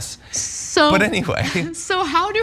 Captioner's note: laugh